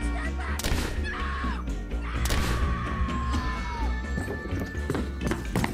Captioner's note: gunshot blasts; footsteps thudding